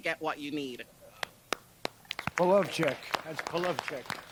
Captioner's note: applause